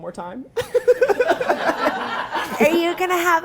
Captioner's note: all laughing